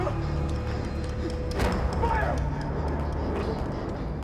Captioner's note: panicked breathing